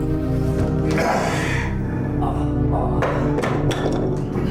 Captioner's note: Quincy grunts